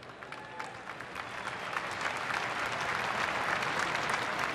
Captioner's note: applause